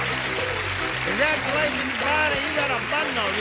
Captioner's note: bells dings